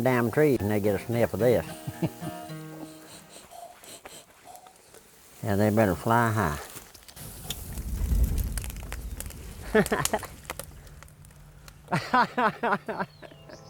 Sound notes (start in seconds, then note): 1.6 laughing; 6.5 fire roaring; 9.6 laughing